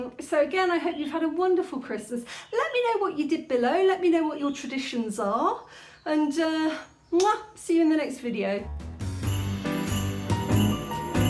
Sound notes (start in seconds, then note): 6.6 kiss; 8.7 jazzy Christmas music